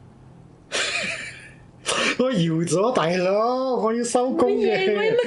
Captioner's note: Cantonese